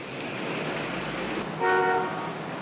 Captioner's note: horn honking